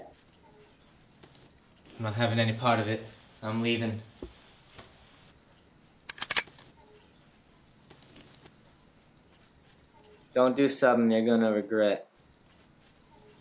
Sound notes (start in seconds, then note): 6.1 gun clicks